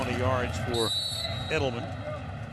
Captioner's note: whistle blows